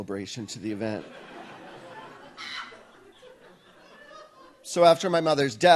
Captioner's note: audience laughs